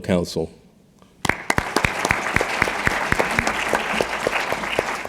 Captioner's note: audience applauding